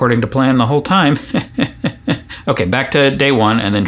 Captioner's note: laughs sarcastically